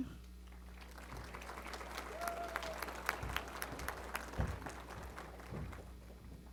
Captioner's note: applause